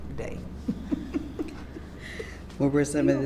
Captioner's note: laughs